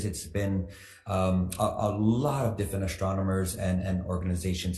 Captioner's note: none